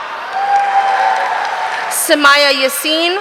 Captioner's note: audience cheering